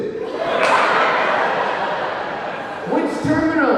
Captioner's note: audience laughing